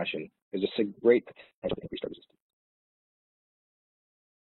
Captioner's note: audio distorts